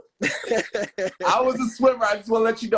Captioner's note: laughing